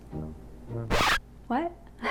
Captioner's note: record scratching